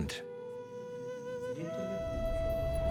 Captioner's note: speaks in Maya